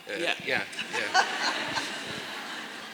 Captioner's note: laughter